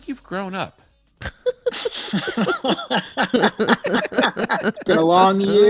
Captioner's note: all laughing